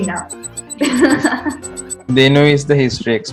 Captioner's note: laughs